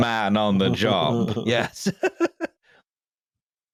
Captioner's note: laughs